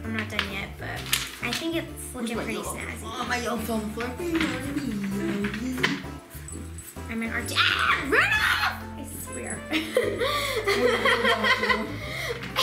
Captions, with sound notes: I'm not done yet but I think it's lookin' pretty snazzy. - My yellow fell on the floor. - (screaming) Rudolph! I swear. (laughing)